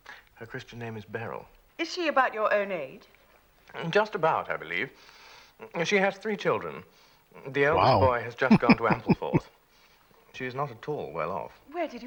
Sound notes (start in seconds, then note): 8.4 chuckling